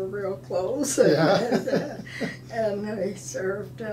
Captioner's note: laughing